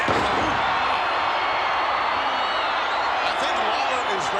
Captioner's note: crowd cheering